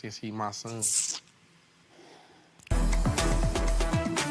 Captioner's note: sucking teeth; upbeat music